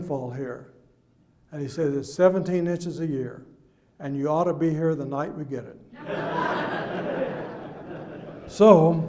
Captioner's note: audience laughs